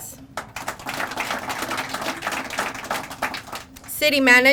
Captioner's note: crowd applauding